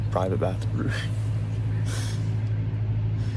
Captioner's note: laughing